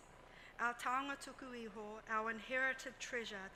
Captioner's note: speaks in foreign language